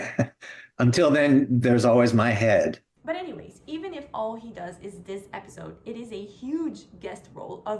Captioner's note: laughs